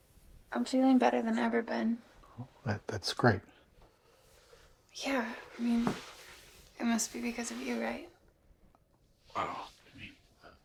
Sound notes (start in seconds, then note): none